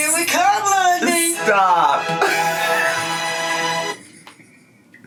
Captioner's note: laughs